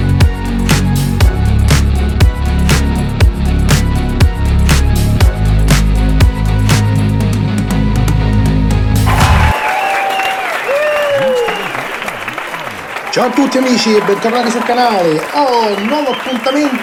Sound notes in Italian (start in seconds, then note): 2.3 Applauso